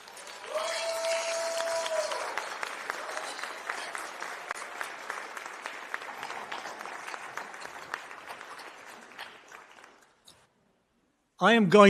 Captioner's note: applause